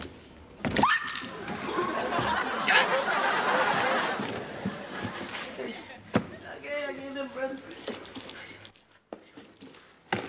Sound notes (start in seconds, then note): 1.4 laughing